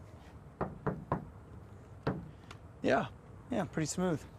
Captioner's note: knocking